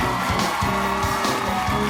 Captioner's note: cheers and applause